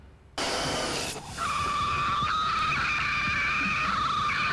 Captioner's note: high-pitched shrieking